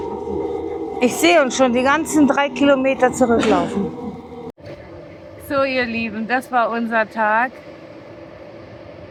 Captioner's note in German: räuspern